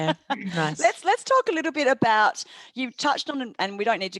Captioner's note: laughter